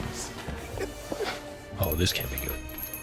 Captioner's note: doorbell jingles